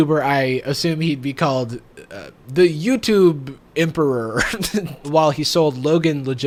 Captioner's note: laughs